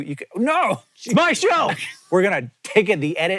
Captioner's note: shouting